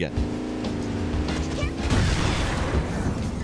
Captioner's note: engine revving